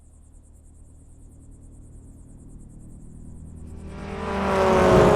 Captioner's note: car engine rumbling